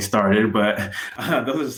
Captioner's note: giggles